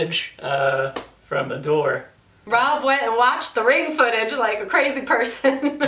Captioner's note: laughs